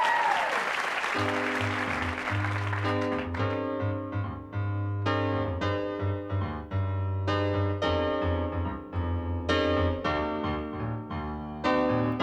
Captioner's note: applause and hoots; applause fades; upbeat piano music